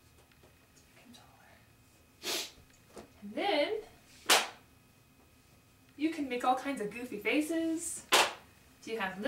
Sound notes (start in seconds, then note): 0.8 whispering; 2.2 sniffle; 4.2 very loud magnet